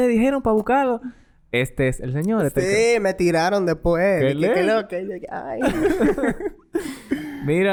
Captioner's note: laughs